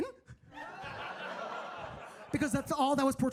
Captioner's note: audience laughing